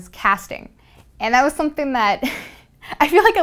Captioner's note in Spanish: risas